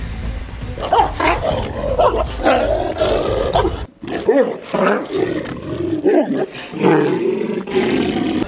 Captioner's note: barking, growling sounds and tense music